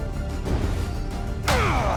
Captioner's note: grunt